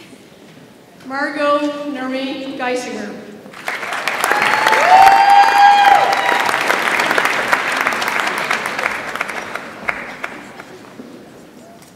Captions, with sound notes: Margo Marie Dysinger. (audience applauds and cheers)